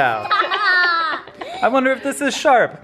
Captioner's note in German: lacht